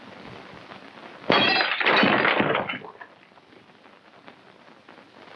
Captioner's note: glass shattering